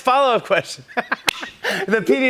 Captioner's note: both laugh